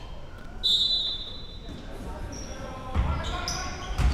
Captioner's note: whistle chirping